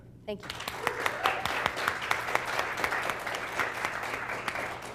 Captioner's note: applause